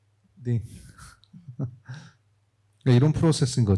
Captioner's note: speaking korean